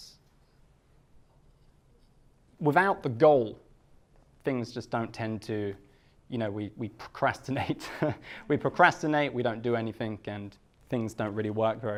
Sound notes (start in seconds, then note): 7.7 laughs